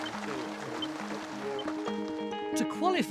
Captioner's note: machine beeps; gentle music